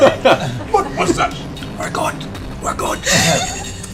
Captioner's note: whispers